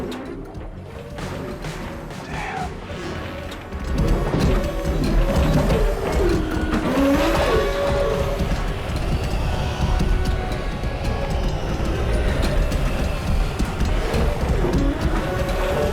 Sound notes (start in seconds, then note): 6.3 car backfire